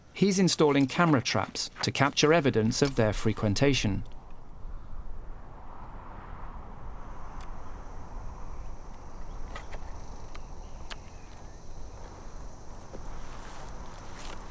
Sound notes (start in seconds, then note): 10.1 latch clicks